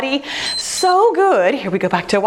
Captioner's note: timer beeps